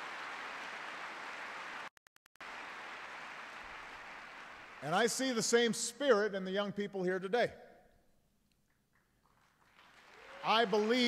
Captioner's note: applause